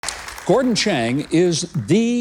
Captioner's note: audience applauds